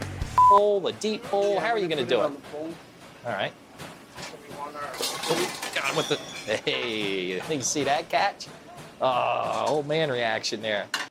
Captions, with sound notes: Bowl, a deep bowl, how are you gonna do it? - I'm gonna put it on a bowl. - All right. - We want our- (dishes crashing) - Hey did you see that catch? Ah, old man reaction there.